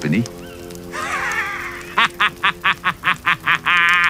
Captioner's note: lacht schadenfroh; laughs maliciously